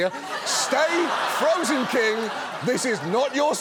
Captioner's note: audience laughs